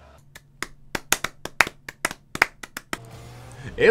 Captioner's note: slow clap for some reason